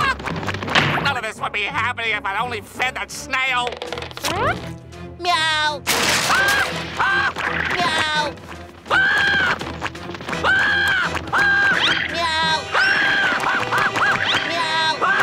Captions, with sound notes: None of this would be happening if I'd only fed that snail! Meow. [screaming] Meow. [screaming] Meow. [screaming] Meow.